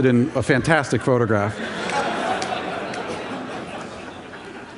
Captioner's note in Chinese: Laughter; 笑聲